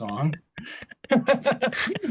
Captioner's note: laughter